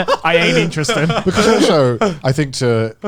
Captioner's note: chuckle